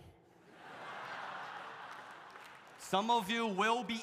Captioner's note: audience laughs